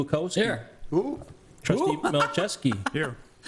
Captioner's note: laughing